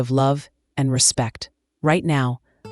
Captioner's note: pause